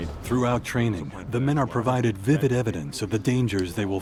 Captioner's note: voiceover